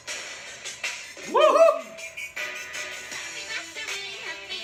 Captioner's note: in-sync howling lol